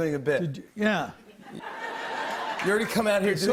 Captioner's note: laughter